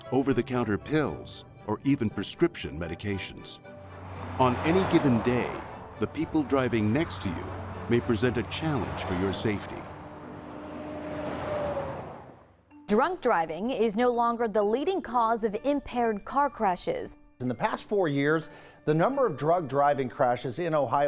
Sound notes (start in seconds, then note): 10.2 traffic noise